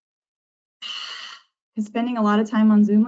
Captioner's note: exhaling